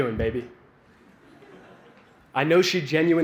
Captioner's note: laughter